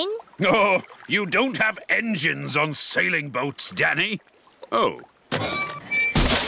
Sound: chuckling

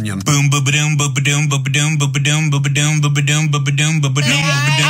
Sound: vocalizing

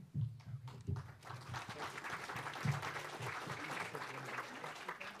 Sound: students clapping

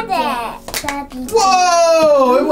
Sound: popping

